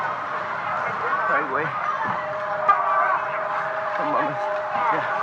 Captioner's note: seismic alarm